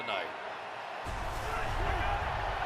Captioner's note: cheering